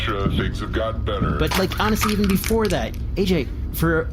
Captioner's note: crushes can